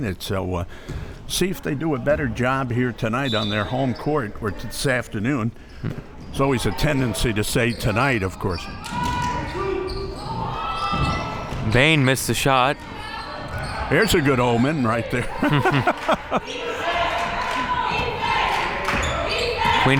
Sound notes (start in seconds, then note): 15.2 laughs; 15.3 chuckles